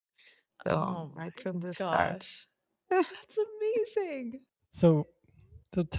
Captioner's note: laughs